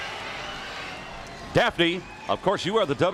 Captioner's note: crowd cheering